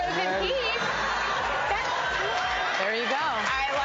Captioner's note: laughs